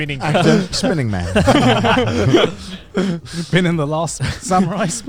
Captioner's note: chuckles